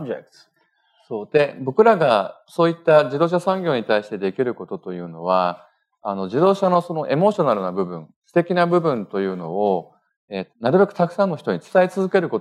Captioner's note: speaking japanese